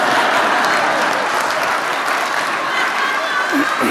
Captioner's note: laughter, applause